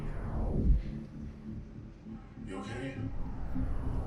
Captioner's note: heavy swishing